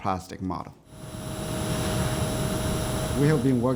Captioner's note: machine whirring